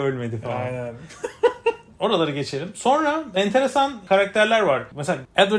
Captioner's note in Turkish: kahkaha